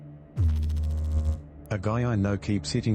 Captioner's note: electrical noise